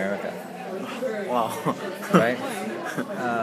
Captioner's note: laughs